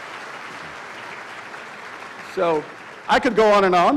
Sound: applause

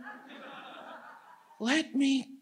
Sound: audience laughs

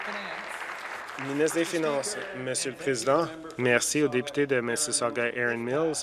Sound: applause

